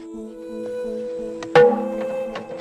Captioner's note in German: Hallendes Klopfen